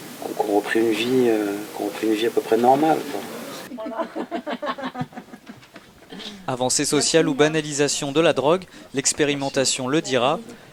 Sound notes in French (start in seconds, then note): 3.6 Rires